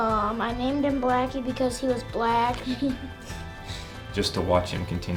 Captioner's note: chuckles